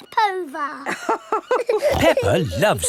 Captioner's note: both laughing